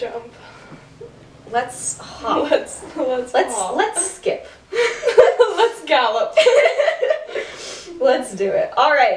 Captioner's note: laughter